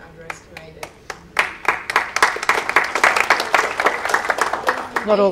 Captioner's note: audience clapping